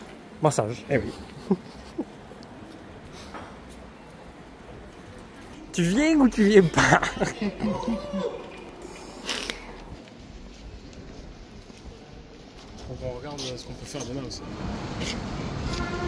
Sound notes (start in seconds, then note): 1.2 laughs; 6.7 laughs